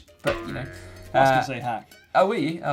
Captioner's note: spring twangs